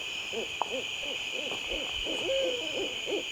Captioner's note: owl hooting